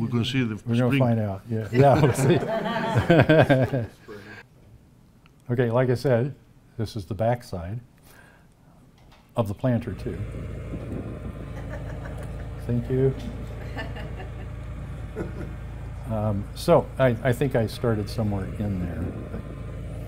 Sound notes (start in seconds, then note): 1.7 audience laughing; 10.8 planter whirring